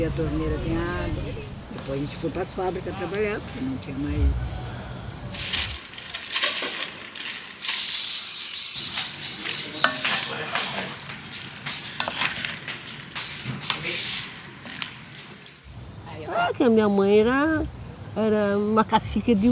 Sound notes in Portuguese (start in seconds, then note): 4.7 ruídos de embalagem plástica; 6.2 pássaros cantam ao fundo; 10.5 passos ao fundo